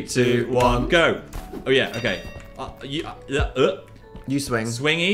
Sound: both stammering

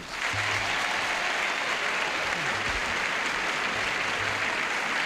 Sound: applause and cheering

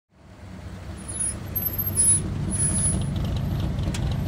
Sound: frenos chirriantes

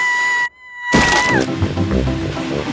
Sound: screaming

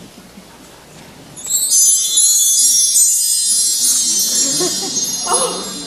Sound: chimes

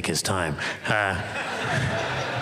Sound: laughter

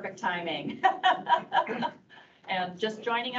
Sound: laughing

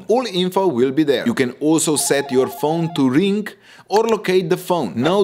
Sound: ringtone

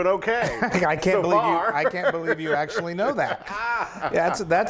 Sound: laugh

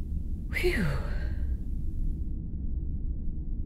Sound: whew!

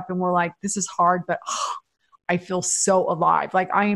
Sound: sighs

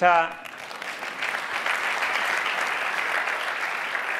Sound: audience applauds

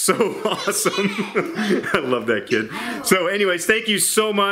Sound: laughing

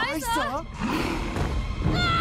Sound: growling

